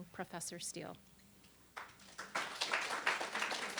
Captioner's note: applause